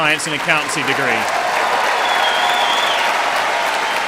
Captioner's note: applause